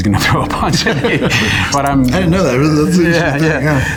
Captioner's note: laughs